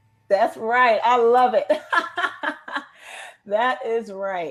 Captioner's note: laughs